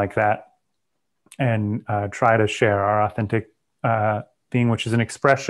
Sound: clicks tongue

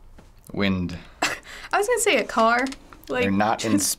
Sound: scoffs

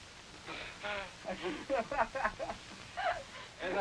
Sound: group laughing

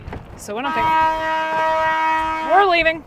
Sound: horn blaring

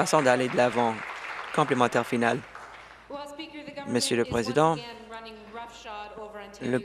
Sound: applause

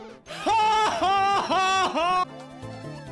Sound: More Luigi laughing at the unfortunate

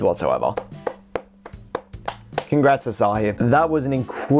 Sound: single person applauding

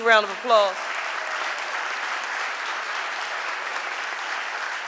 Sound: audience applauding

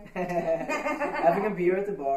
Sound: all laughing

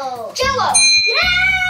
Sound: ding

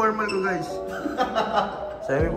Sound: laughing

